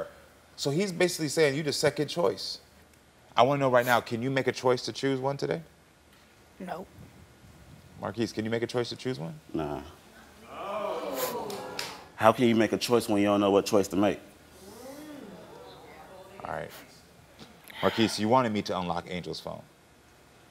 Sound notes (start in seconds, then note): 10.5 audience oohing; 14.6 audience oohing